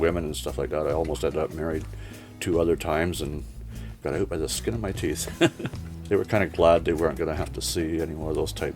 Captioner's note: laughs